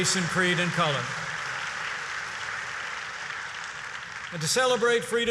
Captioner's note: applause